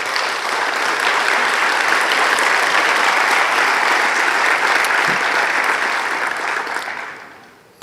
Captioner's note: applause